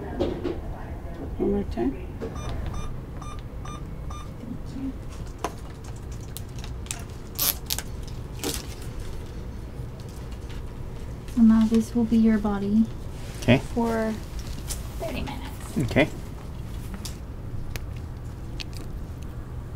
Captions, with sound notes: - One more time. (beeping) - Now this will be your body for about thirty minutes. - Okay.